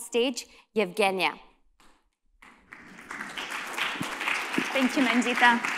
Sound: applause

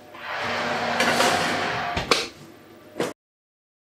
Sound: oven roar

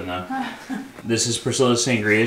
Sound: laughing

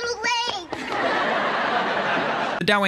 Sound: audience laughing

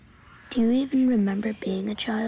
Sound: voiceover

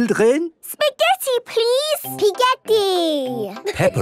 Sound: laughing

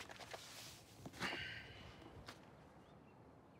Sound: sighs

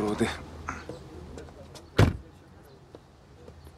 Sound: door clicks shut

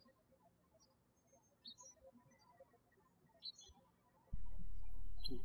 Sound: birds chirping

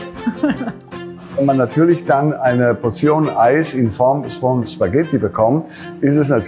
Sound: chuckles; speaking in foreign language

